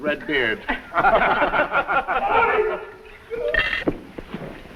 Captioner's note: all laughing